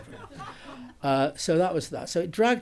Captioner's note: audience laughs